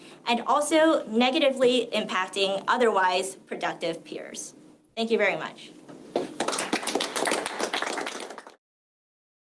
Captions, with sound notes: and also negatively impacting otherwise productive peers. Thank you very much. [APPLAUSE]